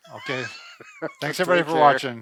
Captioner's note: laughs